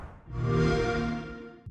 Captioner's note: xbox sound